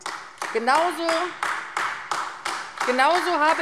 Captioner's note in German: Beifall AfD